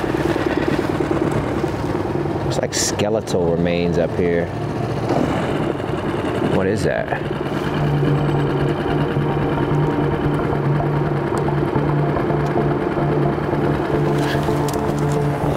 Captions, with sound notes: It's like skeletal remains up here. What is that? (tense music) (boat engine purring)